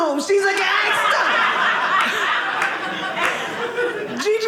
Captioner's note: audience laughing